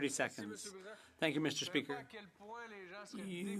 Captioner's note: speaking French